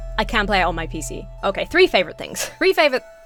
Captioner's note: chuckles